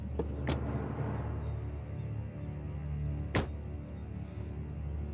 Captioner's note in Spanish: ruido al cerrar las puertas